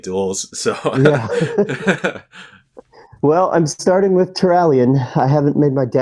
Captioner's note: both laugh